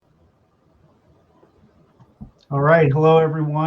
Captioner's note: silence